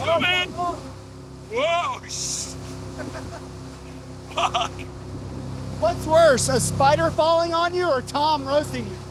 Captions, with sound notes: Let's go, man. Whoa. Shh. [LAUGHS] Frick. What's worse, a spider falling on you or Tom roasting you?